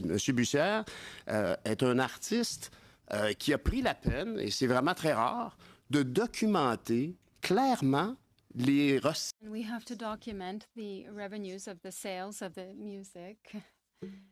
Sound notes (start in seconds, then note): 7.7 speaking French